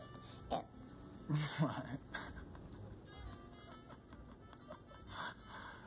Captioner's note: chuckling